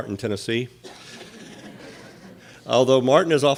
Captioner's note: audience laughing